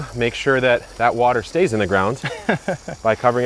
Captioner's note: chuckling